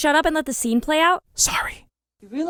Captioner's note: whispers